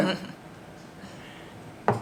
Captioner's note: laughs